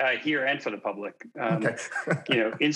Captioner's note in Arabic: يضحك